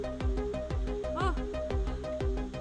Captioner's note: gasps